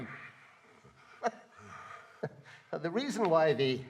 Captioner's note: laughs